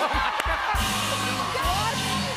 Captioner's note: cheers and applause